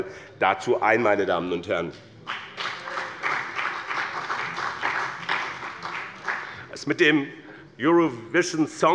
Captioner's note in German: Beifall bei dem BÜNDNIS 90/DIE GRÜNEN und der CDU